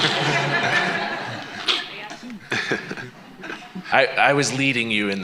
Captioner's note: laughter